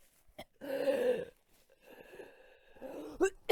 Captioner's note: very raspy inhale